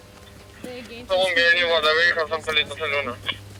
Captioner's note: over radio